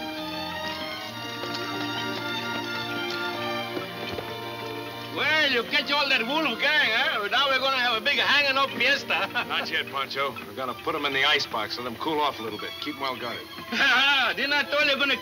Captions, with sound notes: - Well, you catch all that Wolf gang, huh? Now, we're going to have a big hanging up fiesta. - Not yet, Pancho. I've got to put 'em in the icebox, let 'em cool off a little bit. Keep 'em well guarded. - (laughing) Didn't I tell you I was gonna catch you some time, hey, Butch?